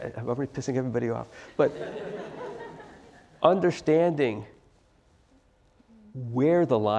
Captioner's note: laugh